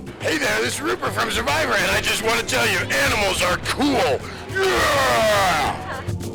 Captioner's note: roar